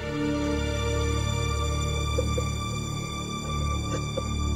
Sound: crying

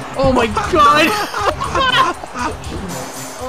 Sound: both Laughing

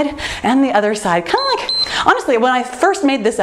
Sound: timer beeps

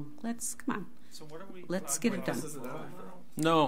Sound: overlapping chattering

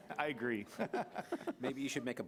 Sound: laughing

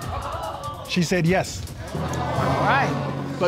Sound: audience gasp; audience gasp

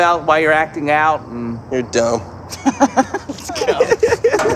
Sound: boys laugh

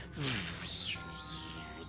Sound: Magneto noises

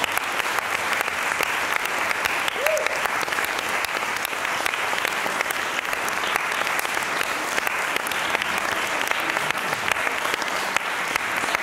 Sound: applause

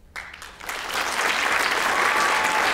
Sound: applause

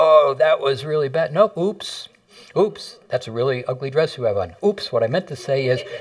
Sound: laughter

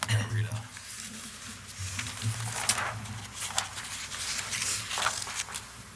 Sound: paper rustling

